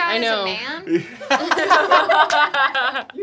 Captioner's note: laughing